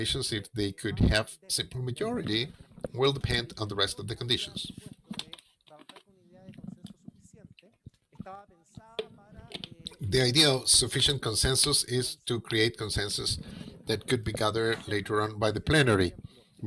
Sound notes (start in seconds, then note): 7.7 speaking foreign language